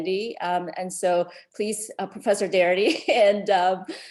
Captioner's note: chuckles